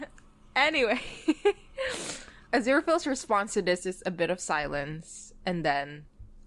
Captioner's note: laughs